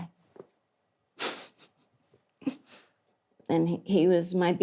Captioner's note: laughs